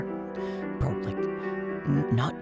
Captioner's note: whispers